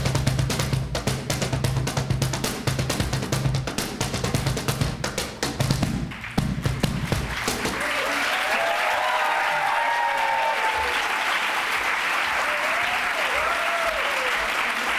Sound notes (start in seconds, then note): 6.1 applause